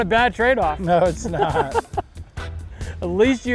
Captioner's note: laughing